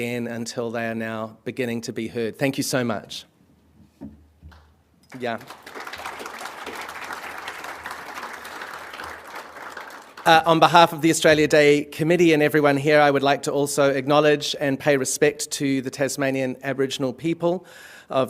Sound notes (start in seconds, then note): 5.1 applause